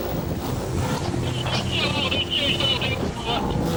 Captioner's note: water drowns out speaker; boat droning